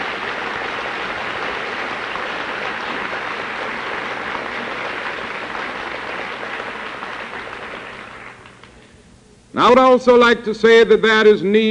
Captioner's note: applause